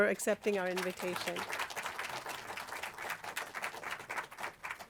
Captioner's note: applause